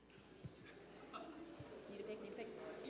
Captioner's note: indistinct chatters